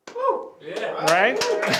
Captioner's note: applause